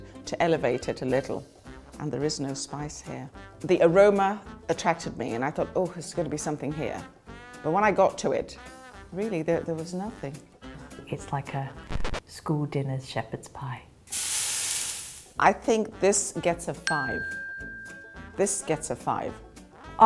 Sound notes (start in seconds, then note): 14.0 fire sizzling; 16.8 bell dings; 19.1 lively upbeat music